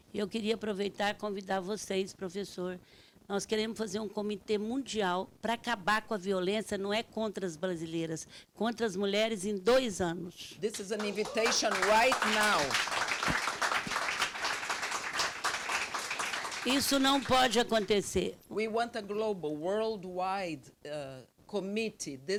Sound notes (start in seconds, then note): 0.3 speaking Portuguese; 12.9 audience clapping; 16.9 speaking Portuguese